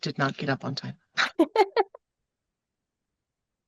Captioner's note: laughter